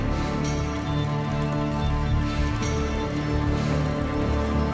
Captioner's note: bike squeaks